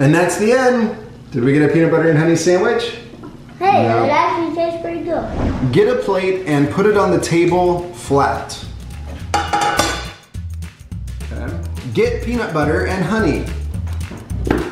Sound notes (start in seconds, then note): none